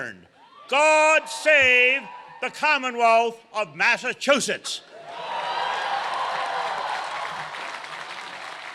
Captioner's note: cheers and applause